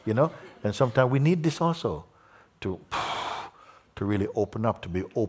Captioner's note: exhales